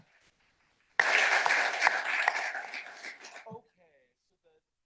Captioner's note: applause